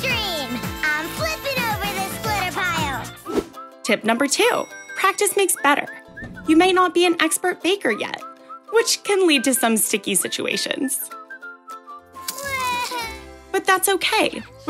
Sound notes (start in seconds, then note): 12.5 crying